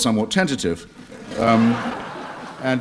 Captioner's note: laughter